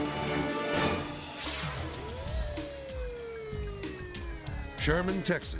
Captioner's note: light upbeat music; siren wailing